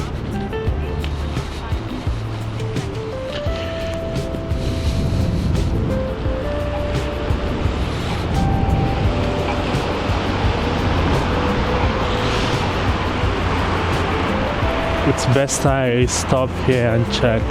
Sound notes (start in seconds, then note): 3.5 wind Blowing